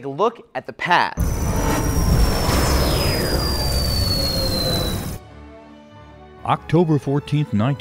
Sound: sound Effects

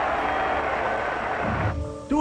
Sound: crowd roars

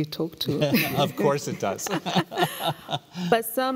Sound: laughing

